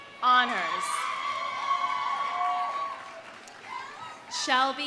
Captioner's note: audience cheering; audience applauding